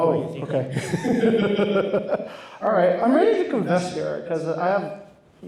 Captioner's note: laughs